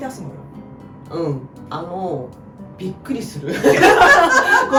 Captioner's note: laughs